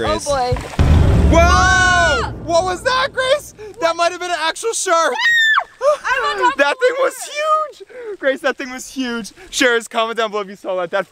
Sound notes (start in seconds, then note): 5.0 screams